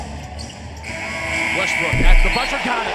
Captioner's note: buzzer